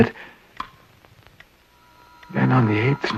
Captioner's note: clock ticking